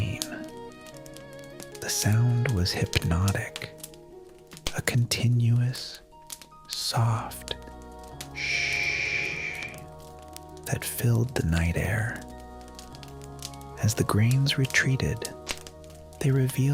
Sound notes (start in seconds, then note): 8.4 shhhhh